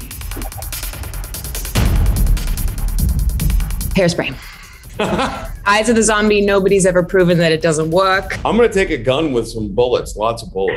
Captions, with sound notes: - Hairspray. (Jeffrey laughs) - Eyes to the zombie, nobody's ever proven that it doesn't work. - I'm gonna take a gun with some bullets, lots of bullets.